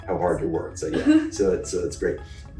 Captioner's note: laughs